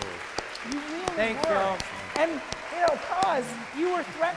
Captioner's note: cheering, applause